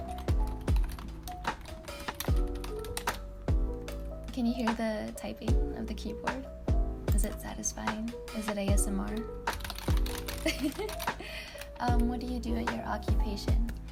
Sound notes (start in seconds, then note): 0.4 audible typing; 9.5 even louder typing lol